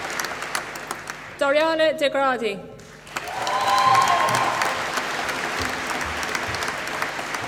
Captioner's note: applause